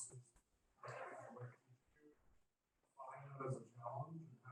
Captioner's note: classroom rustling